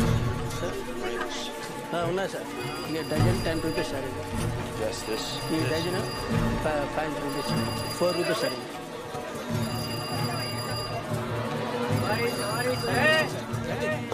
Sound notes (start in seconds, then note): 1.9 speaking foreign language; 8.4 chattering in foreign language; 9.2 phone ringing